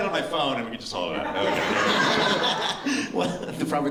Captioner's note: laughter